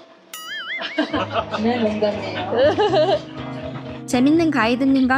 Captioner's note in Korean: 웃음소리